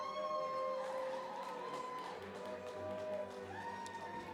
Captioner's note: cheering, applause